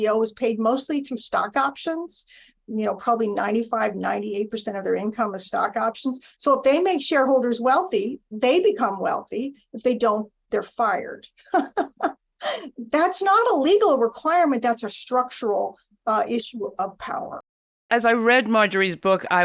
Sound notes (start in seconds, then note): 11.5 laughs